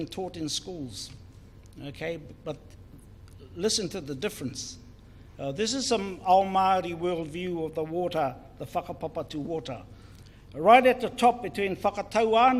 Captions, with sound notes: taught in schools, okay. But, but listen to the difference. This is some (speaks in foreign language) world view of the water, (speaks in foreign language) water. Right at the top between (speaks in foreign language).